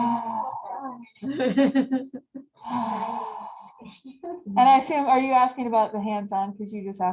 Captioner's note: exhales